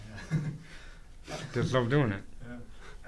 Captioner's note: laughs